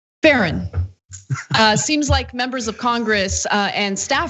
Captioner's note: laugh